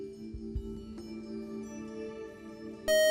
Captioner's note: buzzer